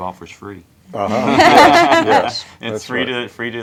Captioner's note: chuckles